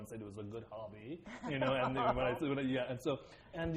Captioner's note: laughter